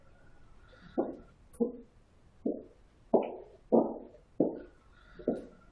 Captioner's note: footsteps